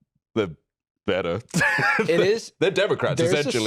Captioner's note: laughs